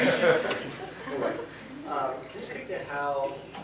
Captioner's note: audience laughter